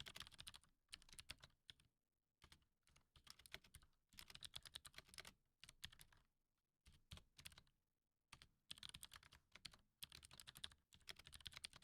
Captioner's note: typing